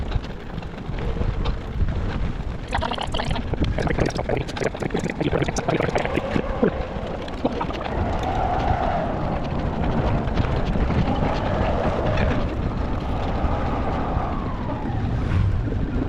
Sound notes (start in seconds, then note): 3.2 wind blowing